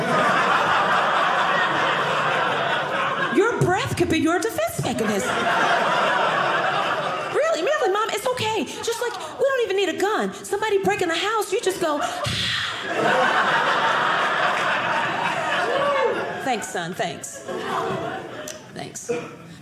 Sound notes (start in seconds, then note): 0.0 audience laughing; 12.0 breathing